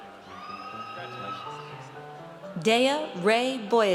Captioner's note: audience cheers